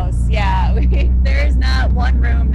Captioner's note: laughing